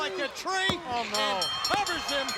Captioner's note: bell ringing